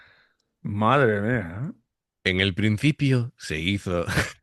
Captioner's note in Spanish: risas